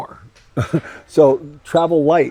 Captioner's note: laughs